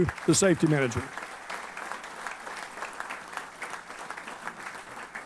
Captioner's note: applause